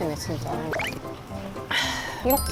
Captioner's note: slurp